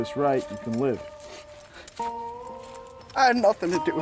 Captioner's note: sniffling and walking